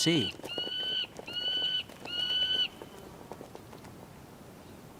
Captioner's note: bird caws